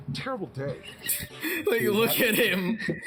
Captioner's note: wheezes; chuckles; chuckling